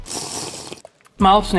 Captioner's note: water sips: 2